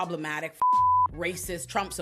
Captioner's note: beep